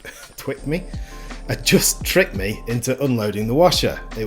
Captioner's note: haha